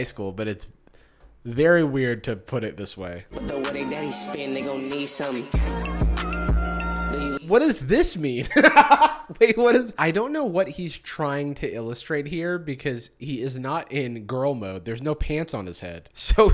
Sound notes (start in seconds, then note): 8.5 laughs